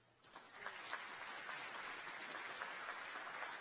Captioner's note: applause